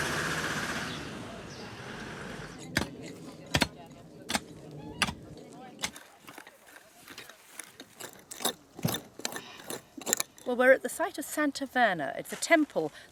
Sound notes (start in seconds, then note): 2.6 sound of digging; 5.8 sound of trowelling